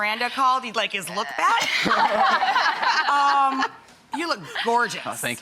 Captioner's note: all laugh